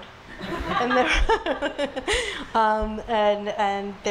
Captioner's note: laughs